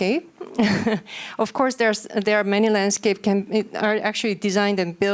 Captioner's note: chuckles